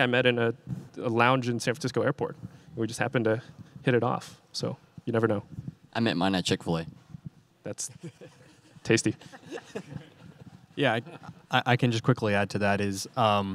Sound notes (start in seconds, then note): 9.1 audience laughing